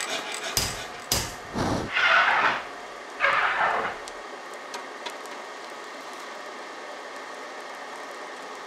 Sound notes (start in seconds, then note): 0.0 hammering, scraping, scratching